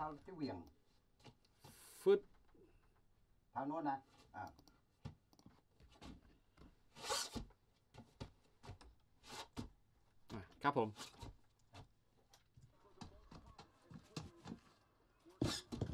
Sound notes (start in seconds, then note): 8.1 scraping shoe across floor